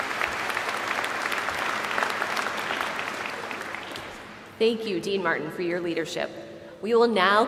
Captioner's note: applause